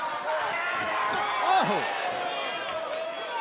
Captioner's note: crowd chatter